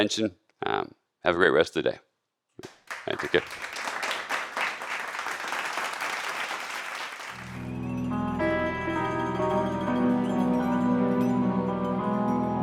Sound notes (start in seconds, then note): 6.2 applause; 7.3 upbeat music; 7.4 gentle music